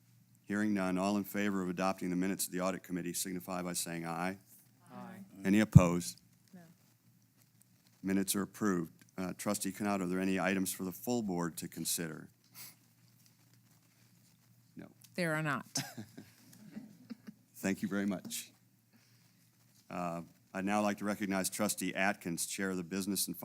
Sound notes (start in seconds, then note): 15.8 laugh